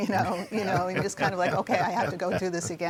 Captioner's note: all chuckle